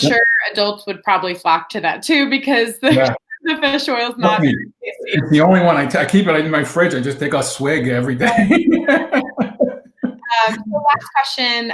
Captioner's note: laughs